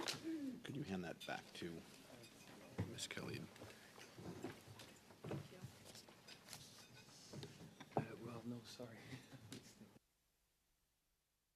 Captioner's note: laughter